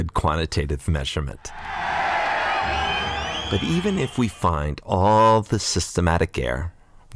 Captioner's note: yeaaaa!!! crowd cheering